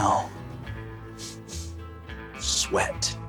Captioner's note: sniffs